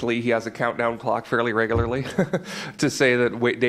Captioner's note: laughs